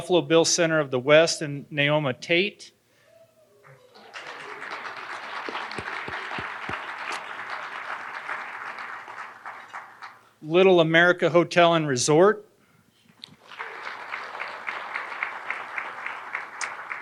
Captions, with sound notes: Buffalo Bill Center of the West, and Naomi Tate, (audience applauding) Little America Hotel and Resort. (audience applauding)